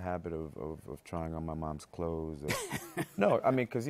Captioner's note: laughs